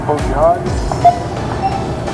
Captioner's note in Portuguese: beep